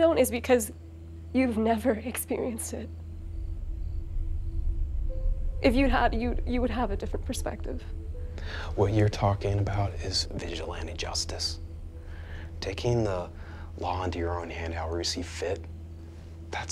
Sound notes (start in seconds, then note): 3.3 crickets chirping; 3.3 tense music